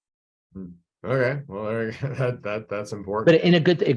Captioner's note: laughs